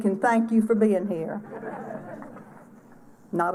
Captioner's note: laughter